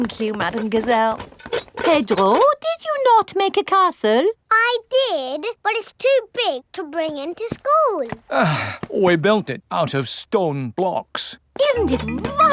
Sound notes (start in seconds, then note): 8.2 sighs